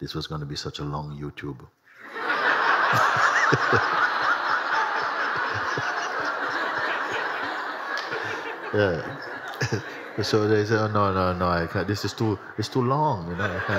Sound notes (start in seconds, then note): 2.4 Mooji laughs; 2.4 laughter; 13.1 laughter